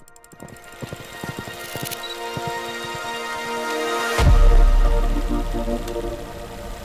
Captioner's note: horse galloping; soft music